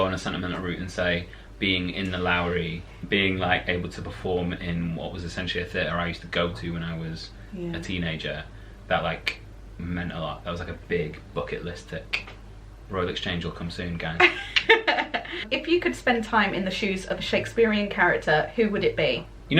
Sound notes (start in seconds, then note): 14.2 laughter